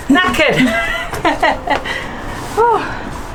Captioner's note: laugh